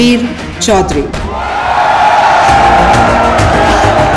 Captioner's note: All cheering